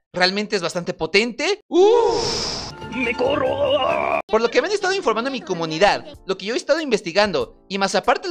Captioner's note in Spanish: sonido de excitación